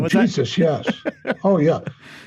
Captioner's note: chuckling